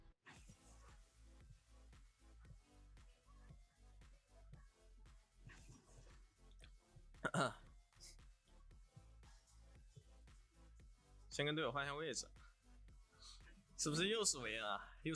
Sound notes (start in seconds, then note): 7.2 coughs